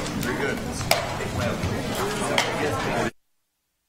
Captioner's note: gavel striking sound block; chatter